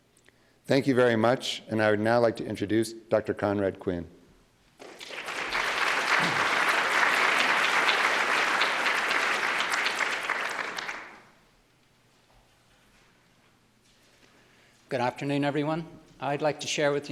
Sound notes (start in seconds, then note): 4.8 applause